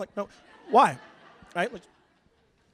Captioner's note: laughter